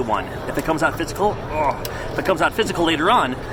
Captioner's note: groans